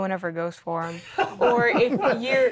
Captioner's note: laughing